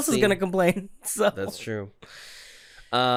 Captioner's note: giggles